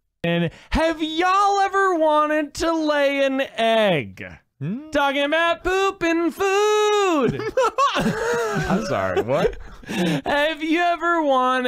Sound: laughs

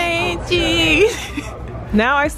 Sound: laughs

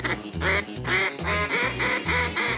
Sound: duck calls

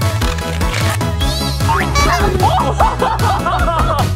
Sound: lively upbeat music; balloon squeaking; horn honking sound effect

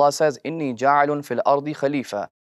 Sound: Arabic

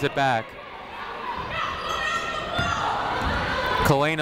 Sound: people shouting in the crowd

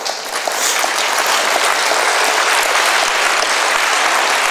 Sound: applause

